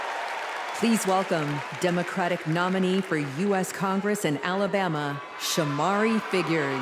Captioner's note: cheers and applause